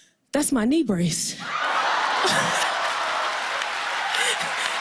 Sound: laughter and applause

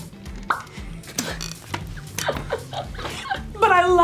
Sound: laughing

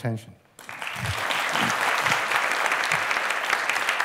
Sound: applause

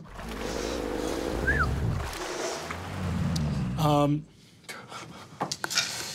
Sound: water sloshing; growling

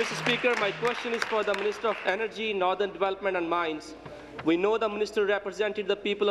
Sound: applause

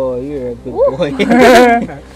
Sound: laugh

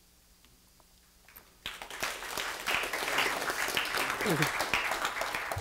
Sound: applause

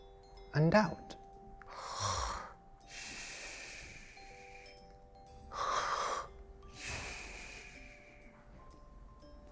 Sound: snoring

